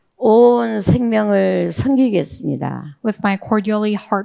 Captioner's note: speaking in foreign language